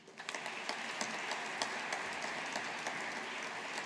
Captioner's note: audience applauding